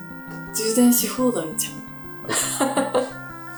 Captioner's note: laughs